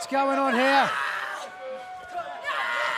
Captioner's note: cheers and applause